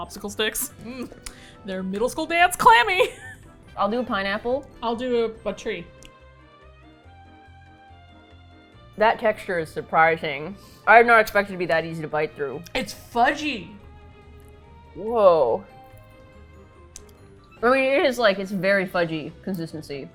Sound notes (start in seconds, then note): 2.8 laughs; 8.9 in disbelief